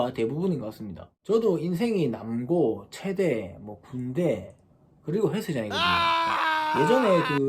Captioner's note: crying out loud